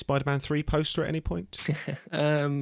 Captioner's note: laughs